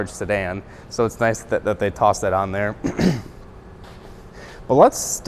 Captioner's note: coughs